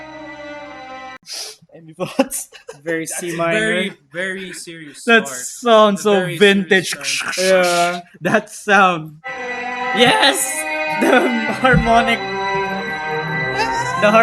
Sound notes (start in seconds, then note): 6.2 imitate sound